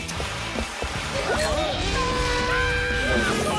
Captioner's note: screams